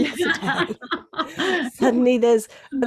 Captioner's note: both laugh